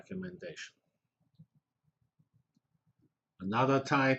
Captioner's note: pause